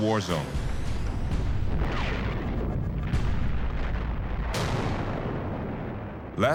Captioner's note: gunfire and bombs exploding